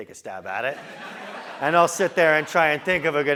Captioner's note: laugh